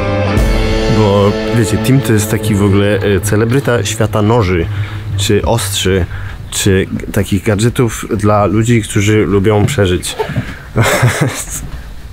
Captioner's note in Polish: śmiech